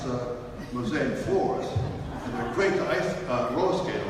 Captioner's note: audience laughs